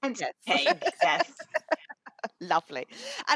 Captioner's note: laughing